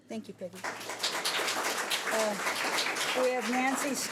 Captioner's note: audience applauds